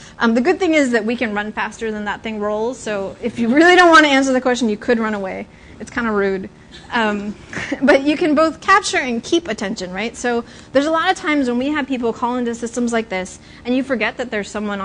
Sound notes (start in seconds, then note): 7.5 laughter